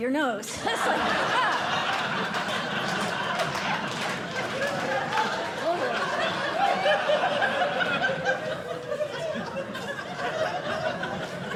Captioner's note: laughter